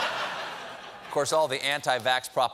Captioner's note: laughter